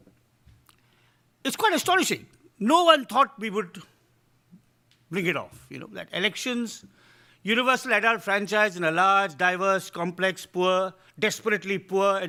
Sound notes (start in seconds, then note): none